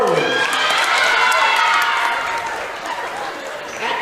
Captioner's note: cheering